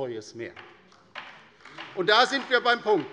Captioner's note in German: Beifall bei der LINKEN